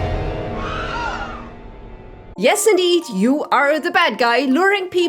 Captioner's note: horror hit, then screams